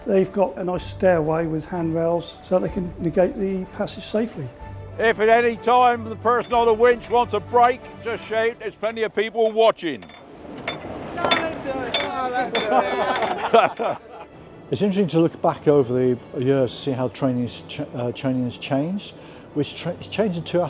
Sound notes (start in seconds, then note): 12.5 laughter